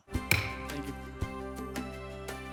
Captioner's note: gavel thudding; bright orchestral music